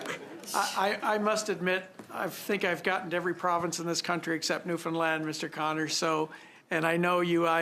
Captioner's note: laughter